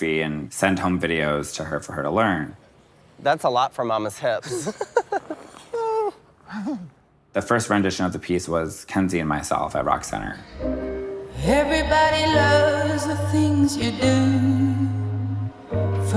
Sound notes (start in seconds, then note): 4.4 laughing; 4.5 exclaiming; 10.4 sentimental music